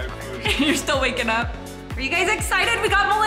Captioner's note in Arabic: أمي تضحك